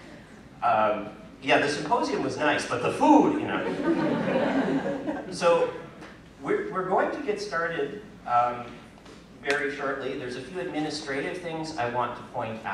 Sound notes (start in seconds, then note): 3.6 laughter